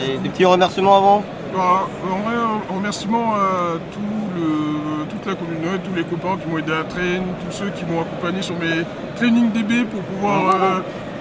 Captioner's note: shoutouts in French